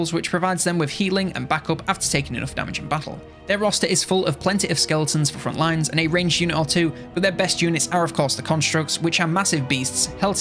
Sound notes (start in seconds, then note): none